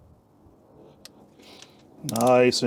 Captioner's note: click